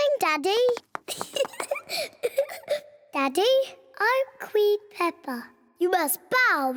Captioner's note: giggles